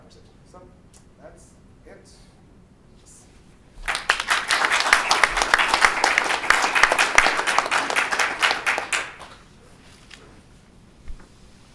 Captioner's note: clapping